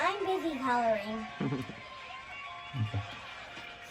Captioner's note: chuckles